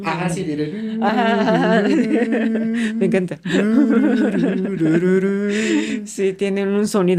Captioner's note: laughs